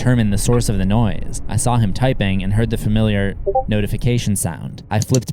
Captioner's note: discord sound